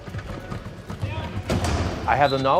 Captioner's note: crash